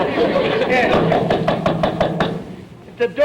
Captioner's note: audience laughter; knocking at door